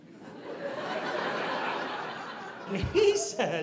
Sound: audience laughing

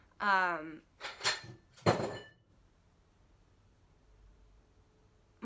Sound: glass clinking

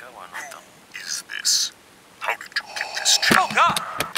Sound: darth vader voice

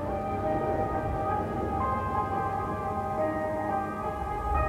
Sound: airplane roaring

